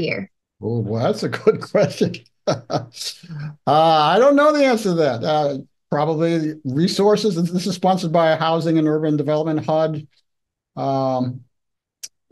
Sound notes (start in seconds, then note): 2.4 laughs